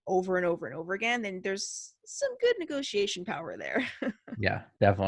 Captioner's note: chuckles